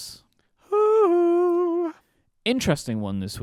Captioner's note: hooting